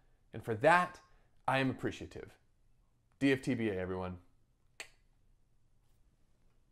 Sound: wink click

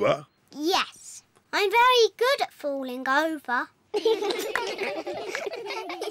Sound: all giggle

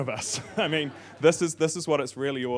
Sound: audience laughing

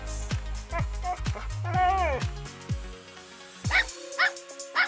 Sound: dog whining; dog barking

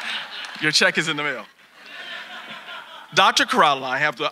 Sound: audience laughing

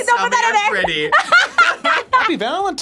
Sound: both laugh

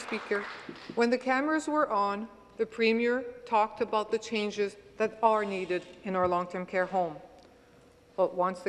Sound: some Applause

